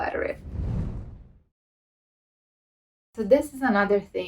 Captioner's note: air whooshing